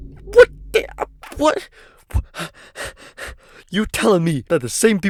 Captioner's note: hyperventilating